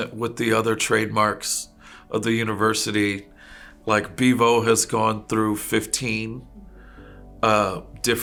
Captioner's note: none